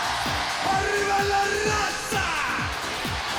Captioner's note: speaks foreign language